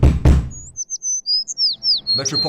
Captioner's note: fist pounding; birds chirping